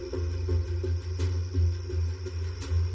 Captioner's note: crickets s chirring; tense music